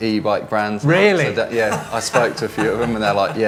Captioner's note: laughing